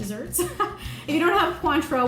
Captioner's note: laughs